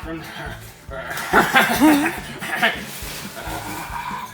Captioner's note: laughter